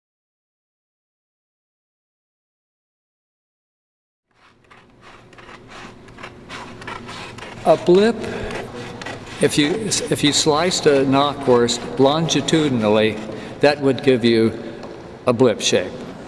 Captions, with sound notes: (Sound of paper being cut) A blip if you sliced a knockwurst longitudinally, that would give you a blip shape.